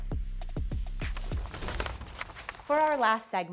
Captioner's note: upbeat music; paper crinkling